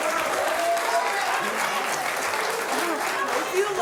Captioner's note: audience applauds